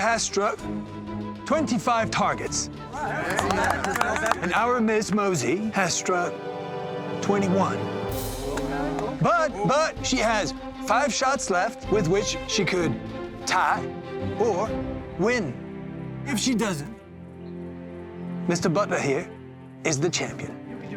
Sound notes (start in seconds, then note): 3.1 applause